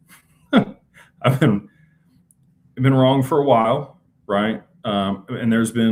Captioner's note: laughter